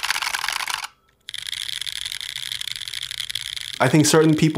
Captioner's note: quick tapping noise